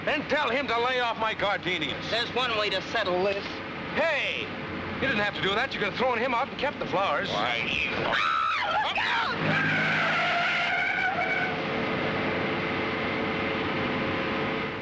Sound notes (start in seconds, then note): 9.7 tires screeching